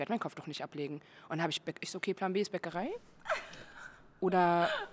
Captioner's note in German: Gelächter